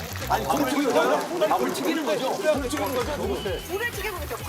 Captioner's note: bubbling